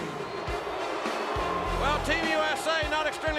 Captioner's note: crowd booing